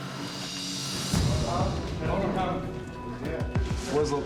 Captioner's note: indistinct chatter